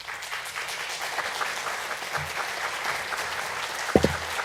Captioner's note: applause